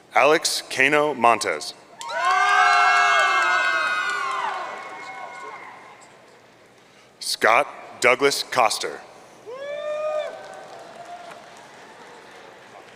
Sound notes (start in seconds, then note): 2.0 audience cheering; 9.5 audience cheering